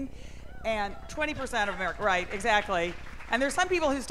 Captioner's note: cheers and applause